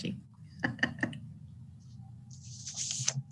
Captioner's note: laughs